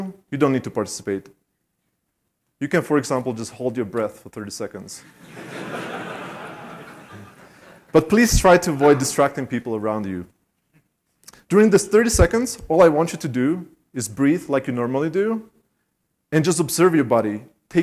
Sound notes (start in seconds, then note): 5.0 laughter